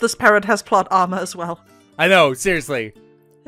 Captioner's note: laughs